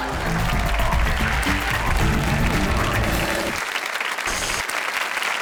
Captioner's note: audience laughs; audience applauds